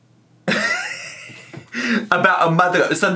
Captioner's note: chuckling